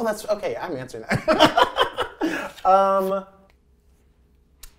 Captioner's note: laughing